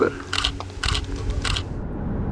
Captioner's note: camera shutter sound